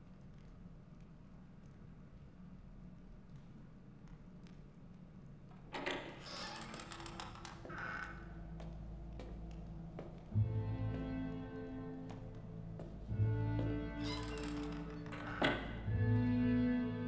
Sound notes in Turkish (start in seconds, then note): 5.6 Kapı açılma sesi; 13.9 Kapı kapanma sesi